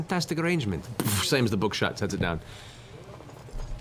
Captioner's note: thud